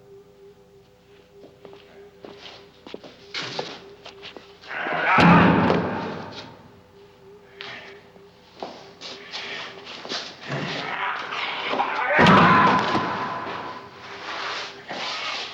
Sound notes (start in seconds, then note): 4.6 grunting; 5.0 thudding